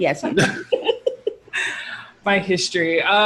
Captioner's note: all laughing